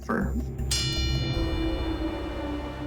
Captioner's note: bell dings; foreboding music playing